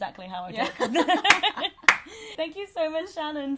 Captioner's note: laughs